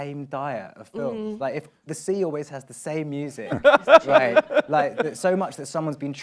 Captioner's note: laughs